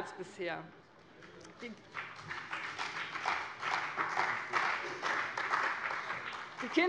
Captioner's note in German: Beifall bei dem BÜNDNIS 90/DIE GRÜNEN und der CDU